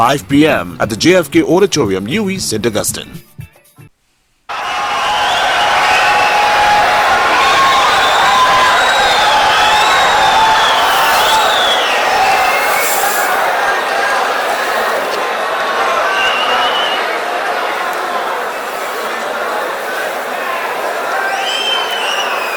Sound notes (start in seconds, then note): 8.3 wild applause and cheering for 22 seconds